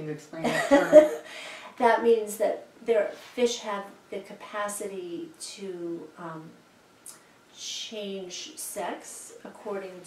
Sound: chuckles

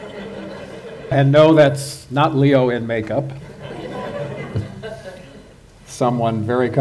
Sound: laughter

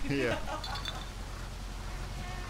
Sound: laughing

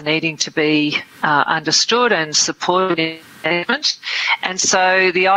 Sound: audio distorts

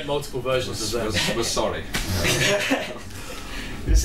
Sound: they laugh

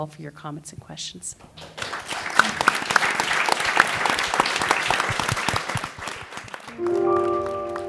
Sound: applause

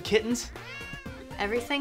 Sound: meow

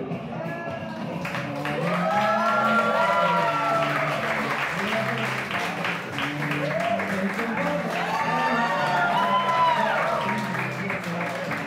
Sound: applause

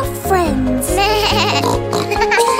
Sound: oink; bleating

